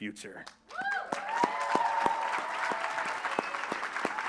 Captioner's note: applause